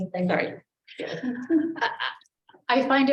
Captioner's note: woman laughs